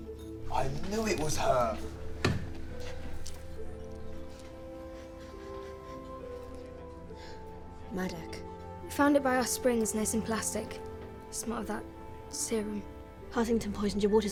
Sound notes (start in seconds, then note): 5.9 Jana sniffs; 7.1 exhales